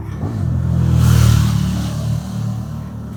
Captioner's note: motor bike's zoom